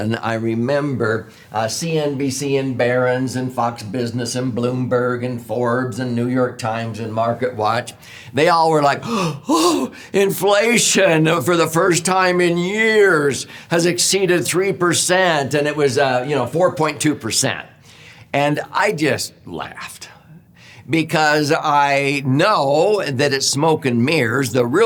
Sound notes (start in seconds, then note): 9.0 gasping